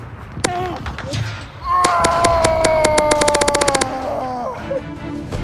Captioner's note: intense war cry